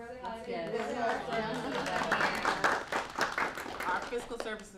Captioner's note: applause